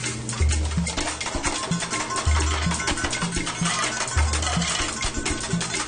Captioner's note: spatula clangs